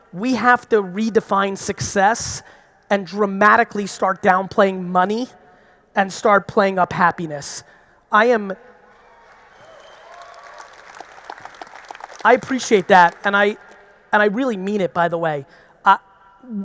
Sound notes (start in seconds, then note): 9.0 audience applauding; 9.0 audience cheering